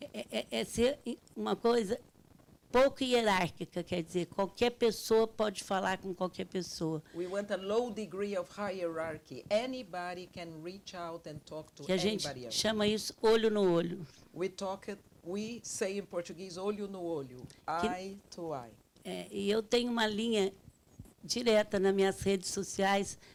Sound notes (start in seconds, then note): 0.3 speaking Portuguese; 12.8 speaking Portuguese; 16.7 speaks Portuguese; 19.4 speaking Portuguese